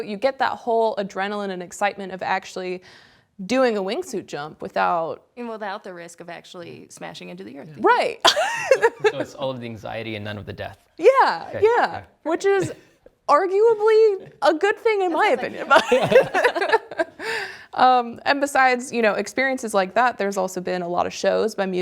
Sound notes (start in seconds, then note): 15.1 laughter